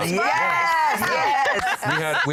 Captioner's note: laughter